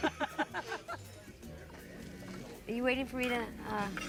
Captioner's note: both laugh